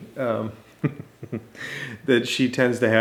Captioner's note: father chuckling